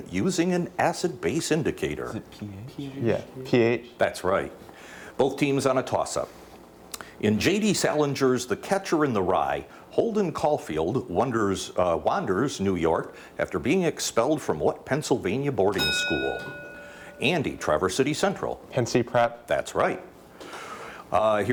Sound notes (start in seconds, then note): 15.7 bell dings